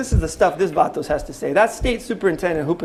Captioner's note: non-english speech